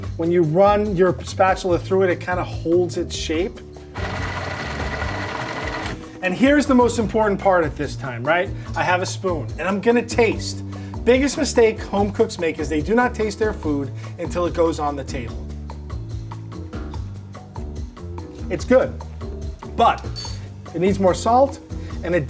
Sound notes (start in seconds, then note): 3.9 food processor whirring; 15.8 light upbeat music